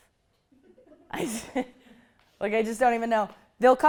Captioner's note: laughter